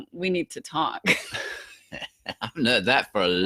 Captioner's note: both laughing